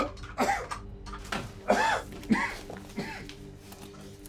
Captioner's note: David coughing; slow dramatic music